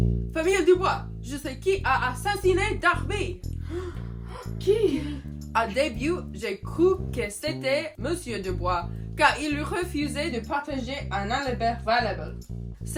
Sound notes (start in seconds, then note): 3.6 DUBOIS FAMILY gasps